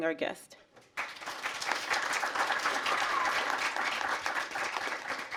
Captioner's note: applause